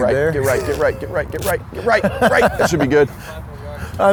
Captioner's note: laughs